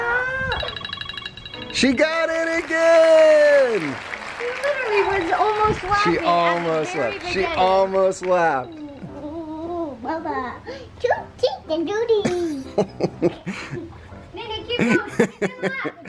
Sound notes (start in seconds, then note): 0.5 timer beeping; 1.8 applause; 9.5 babbling; 9.5 laughing